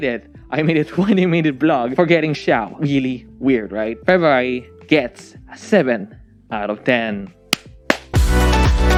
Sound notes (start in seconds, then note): 7.8 claps